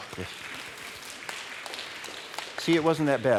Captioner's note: applause